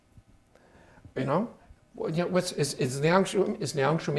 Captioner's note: speaking Chinese